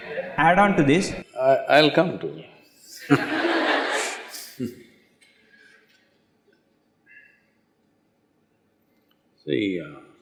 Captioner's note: laughter